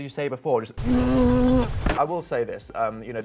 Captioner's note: groans